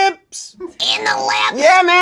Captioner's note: screeches